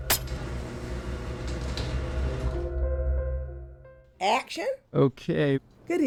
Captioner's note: garage door humming